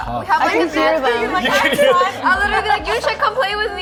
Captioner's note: laughing